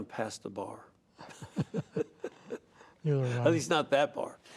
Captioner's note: laughter